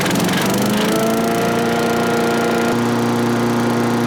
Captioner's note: motor vibrating